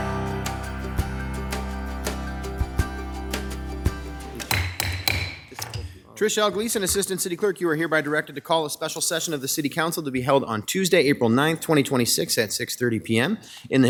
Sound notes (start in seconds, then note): 0.0 gentle upbeat music; 4.4 gavel banging